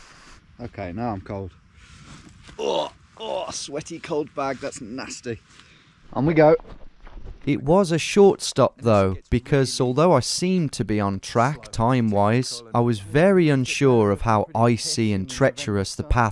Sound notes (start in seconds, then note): 2.5 groaning